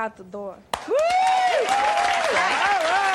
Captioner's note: applause